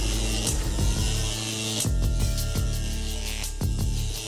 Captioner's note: buzzing noise